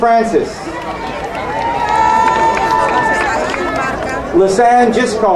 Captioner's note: crowd cheering